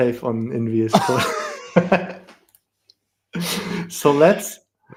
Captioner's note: laughter